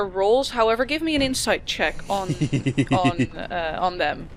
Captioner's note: laughs